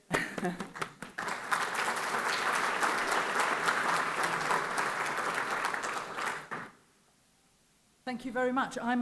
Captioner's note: clapping